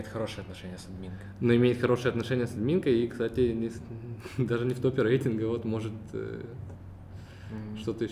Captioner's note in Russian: посмеивается